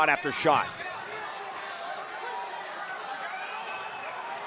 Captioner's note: audience cheering